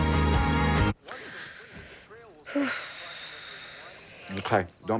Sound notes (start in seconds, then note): 1.0 gasps and sighs; 2.7 man speaking on TV